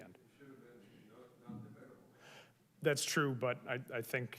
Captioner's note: murmurs